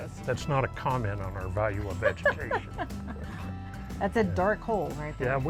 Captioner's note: laughs